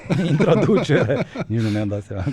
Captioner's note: laughter